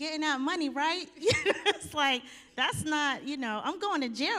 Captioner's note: chuckles